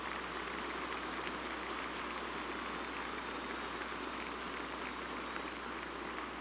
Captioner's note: applause